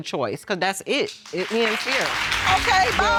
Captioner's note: applause